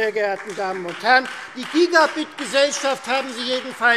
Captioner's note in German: Beifall Freie Demokraten